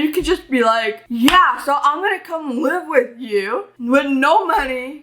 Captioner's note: claps hands